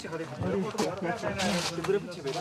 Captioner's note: foreign language spoken